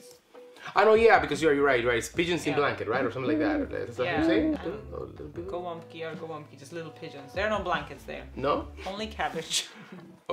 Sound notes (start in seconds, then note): 3.0 pigeon cooing